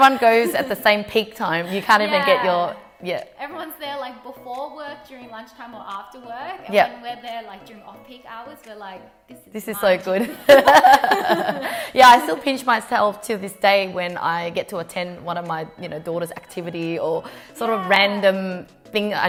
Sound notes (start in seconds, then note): 10.5 laughing